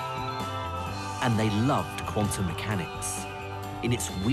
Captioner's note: voiceover